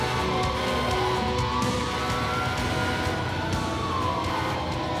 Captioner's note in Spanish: sirena de bomberos